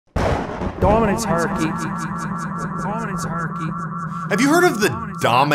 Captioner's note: echoing